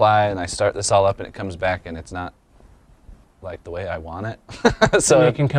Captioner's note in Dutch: lacht